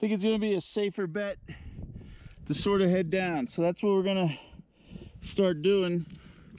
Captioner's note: wind blowing